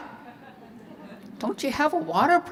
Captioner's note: audience chuckling